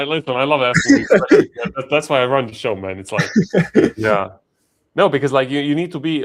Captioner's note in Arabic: ضحك